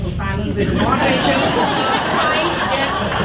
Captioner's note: audience laughs